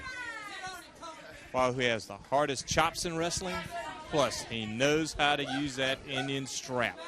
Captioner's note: crowd chatter